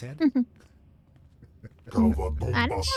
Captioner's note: speaking foreign language